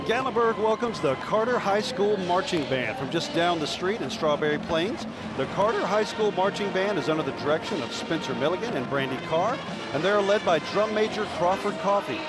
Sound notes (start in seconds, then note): 2.4 laughing; 4.8 motors revving